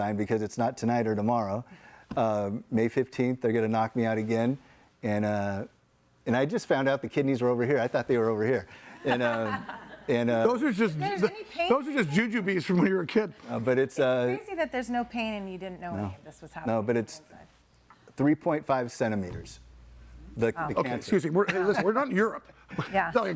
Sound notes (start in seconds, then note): 9.0 audience laughing